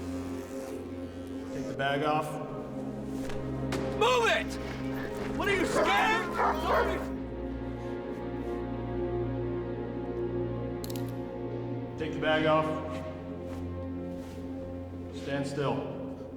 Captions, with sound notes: TAKE THE BAG OFF. MOVE IT! WHAT, ARE YOU SCARED?! [ CAMERA SHUTTER CLICKS ] TAKE THE BAG OFF. STAND STILL.